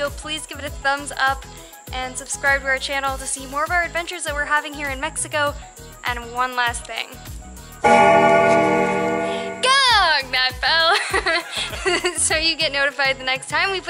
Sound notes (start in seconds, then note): 7.8 bell rings